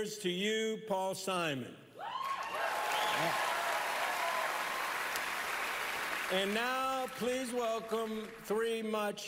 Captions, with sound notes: Here's to you, Paul Simon. -(cheering, applause) -Yeah. And now, please welcome